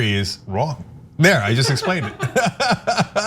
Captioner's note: laugh